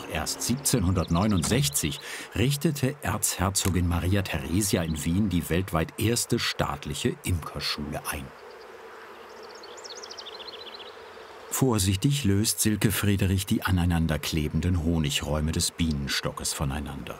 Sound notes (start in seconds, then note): 8.8 humming, birds chirping